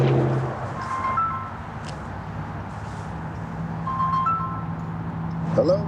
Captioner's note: phone ringing